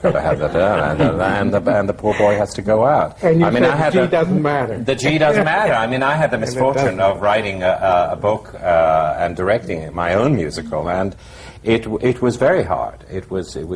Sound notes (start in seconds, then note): 0.0 laughter